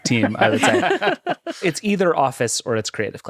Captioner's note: all laughing